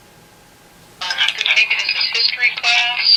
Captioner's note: playback recording plays